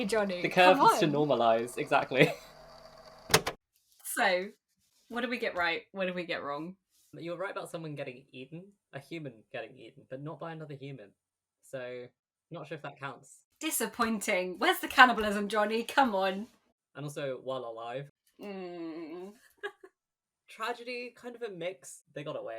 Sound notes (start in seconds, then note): 2.8 tape recorder clicks off; 18.8 groans; 20.1 laughs